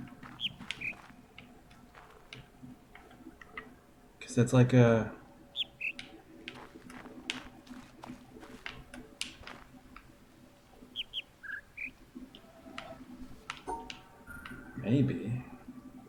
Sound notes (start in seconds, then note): 0.1 bird chirps ˥ ˩; 5.4 bird chirps ˥ ˩; 10.4 bird chirps ˥ ˥ ˩ ˧